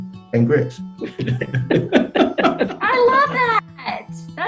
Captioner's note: all laugh